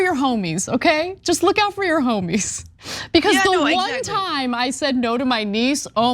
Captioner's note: laugh